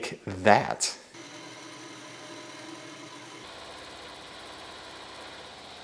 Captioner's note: machine motor hums